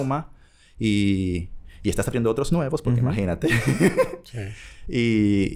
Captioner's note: laughs